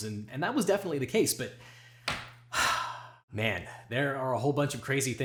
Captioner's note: sighs